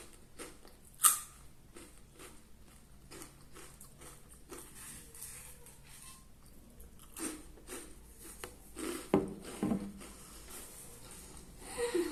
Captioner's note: chewing noises